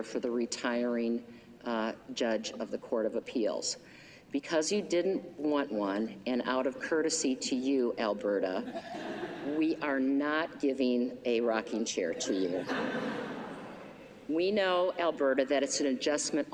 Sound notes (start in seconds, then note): 12.5 laughter